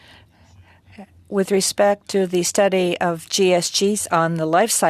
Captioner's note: speaking French